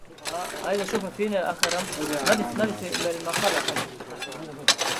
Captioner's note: Arabic spoken audio